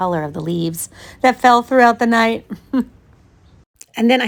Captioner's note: laughs